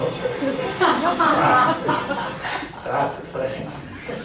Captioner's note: laughter